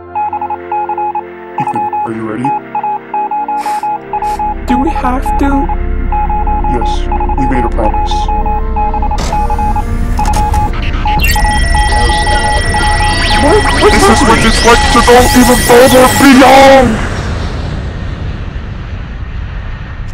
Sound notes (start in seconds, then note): 0.2 morse code beeping; 3.6 sniffles; 4.6 morse code beeping; 8.4 rumbling; 8.5 morse code beeping; 9.3 machine noise; 9.7 morse code beeping; 10.1 alarm; 11.4 morse code beeping